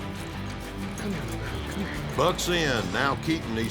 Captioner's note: hoofbeats